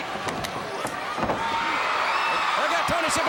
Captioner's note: crowd cheering